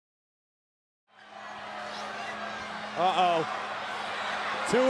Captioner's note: crowd cheering